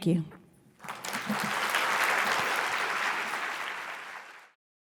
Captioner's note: audience clapping